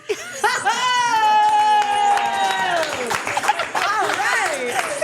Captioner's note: everyone laughing and clapping